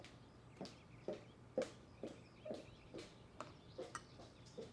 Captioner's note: footsteps clicking